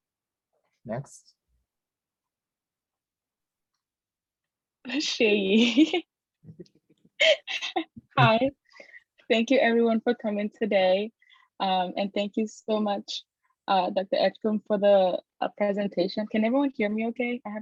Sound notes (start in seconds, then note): 4.9 giggles